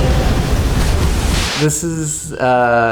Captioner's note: waves rumbling